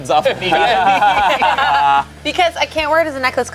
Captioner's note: group laughs